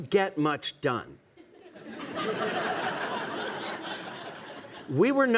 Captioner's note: audience laughing